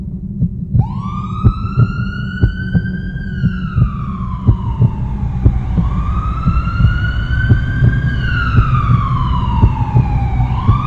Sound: heartbeat; siren from ambulance

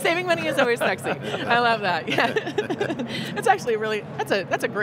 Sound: laughing loudly

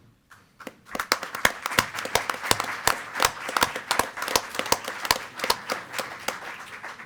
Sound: board members and attendees applaud

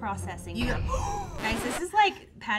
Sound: gasps

